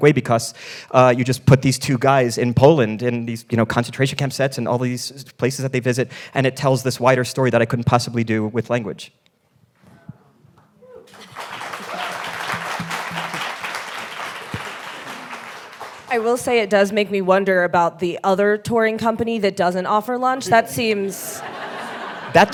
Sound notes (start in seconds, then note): 11.0 all applauding; 20.4 audience laughing